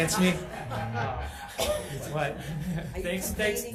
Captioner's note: all chuckling